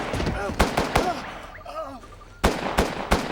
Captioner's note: gasping; gun bangs; groaning